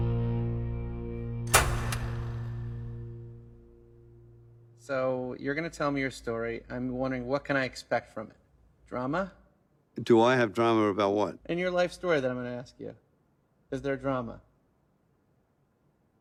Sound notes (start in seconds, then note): 1.5 light clicks